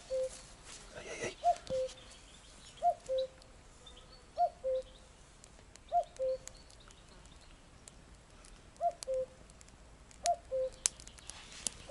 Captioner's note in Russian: Звук горения костра. Пение птиц